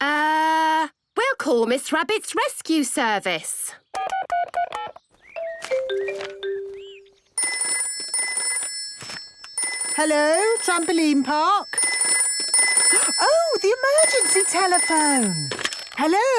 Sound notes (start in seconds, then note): 5.4 phone beeping; 7.3 phone ringing; 12.2 phone ringing